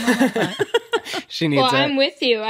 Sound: laughter

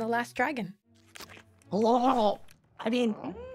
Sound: chomp

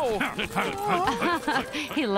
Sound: laughing

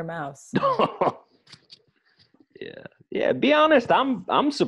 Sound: chuckles

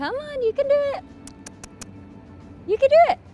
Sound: kissing noises

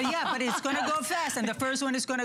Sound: laughter

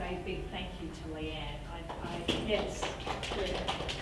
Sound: applause from audience

